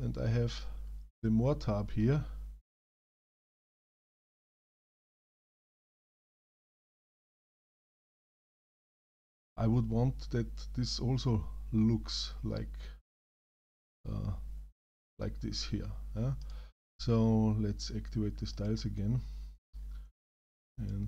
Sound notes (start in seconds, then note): 4.5 silence